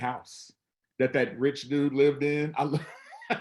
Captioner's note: laughs